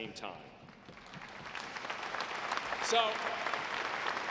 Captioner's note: audience claps